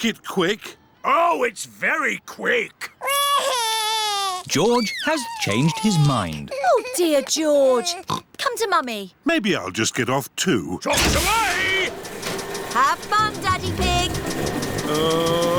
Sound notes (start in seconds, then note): 3.0 crying; 8.0 oinks